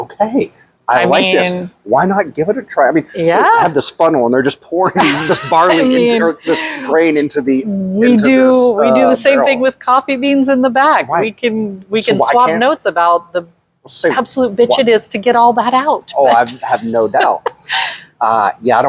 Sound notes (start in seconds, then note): 4.8 laughs; 16.1 laughs